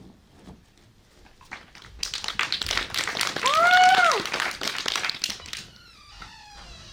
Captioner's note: applause